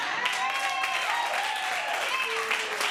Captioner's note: audience cheering